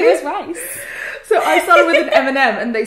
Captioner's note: laughs